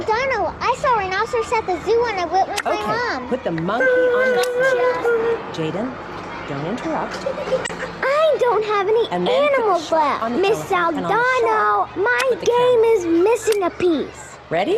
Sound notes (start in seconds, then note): 3.8 child cries out